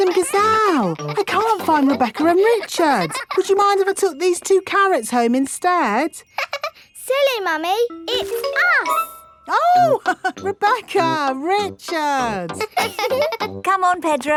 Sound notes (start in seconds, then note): 0.0 all laughing; 6.7 laughs; 12.2 both laughing; 12.2 chuckles